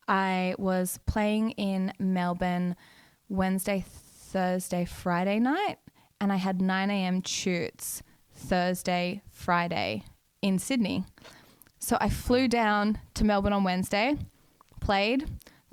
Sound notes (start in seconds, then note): none